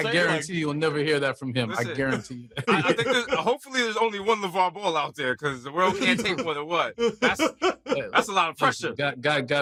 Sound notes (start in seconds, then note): 2.6 laughter; 6.9 laughing